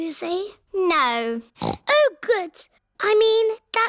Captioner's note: snorts